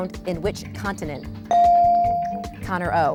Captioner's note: bell dings